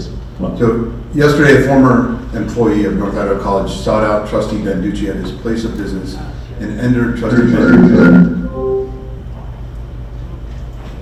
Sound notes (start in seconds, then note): 7.3 echoing